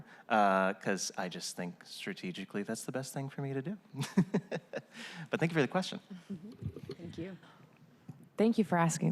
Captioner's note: laughter